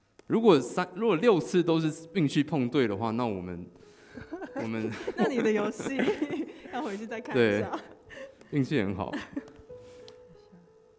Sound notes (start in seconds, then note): 4.2 laughing